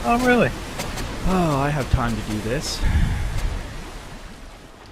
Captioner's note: sarcastically